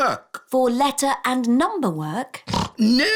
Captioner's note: snorts